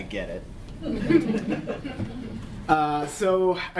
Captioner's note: laughter